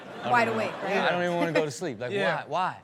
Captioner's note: audience laughs